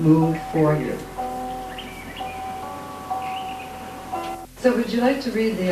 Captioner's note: calming music; birds tweeting